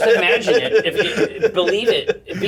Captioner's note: laughter